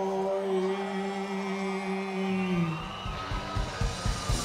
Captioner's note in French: cris d'enthousiasme